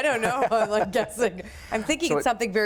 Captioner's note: laughs